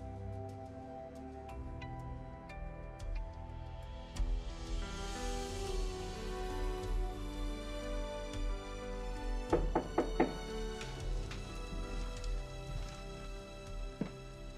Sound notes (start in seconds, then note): 0.1 uplifting music; 9.5 door knocking